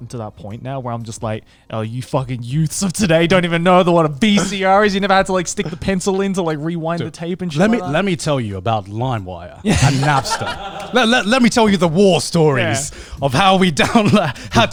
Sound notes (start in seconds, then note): 9.6 all laughing